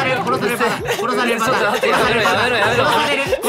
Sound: laughing maniacally in the background

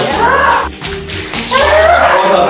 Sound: balloon pops; groans

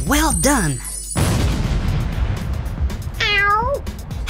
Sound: explosion

